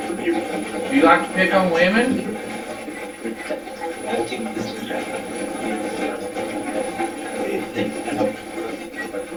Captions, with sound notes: You like to pick on women? (static playback transmitting)